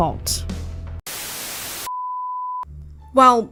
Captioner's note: static